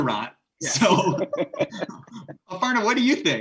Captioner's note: laughing